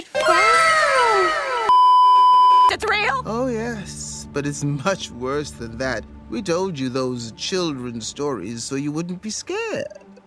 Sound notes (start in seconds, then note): 0.1 animeWow.wav; 1.7 beeeeeep